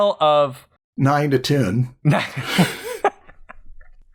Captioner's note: laughter